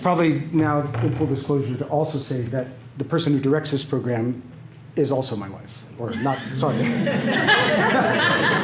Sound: laughter

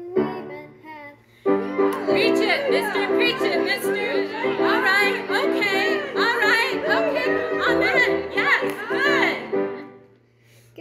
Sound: choir, spoken

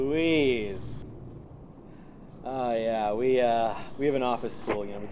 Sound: animal panting

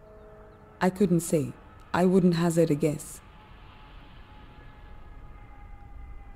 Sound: airplane engine roaring

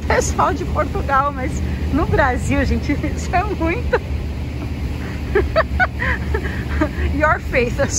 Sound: laughs

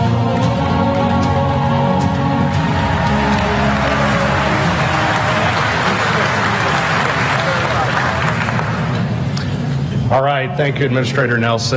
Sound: applause

